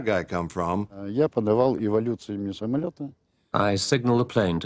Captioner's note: speaking Russian